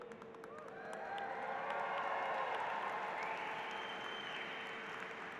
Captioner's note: applause